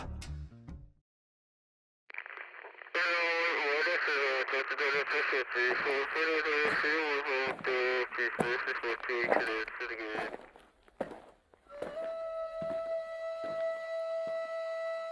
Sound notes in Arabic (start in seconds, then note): 2.1 راديو am ثابت; 7.7 خطوات تدوس الحصى; 11.6 موسيقى الفلوت الخشبي